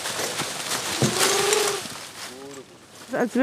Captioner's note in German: Rascheln